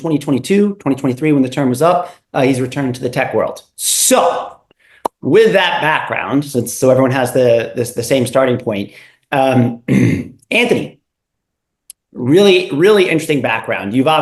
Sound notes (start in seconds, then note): 9.8 cough